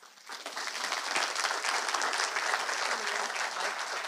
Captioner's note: audience applauds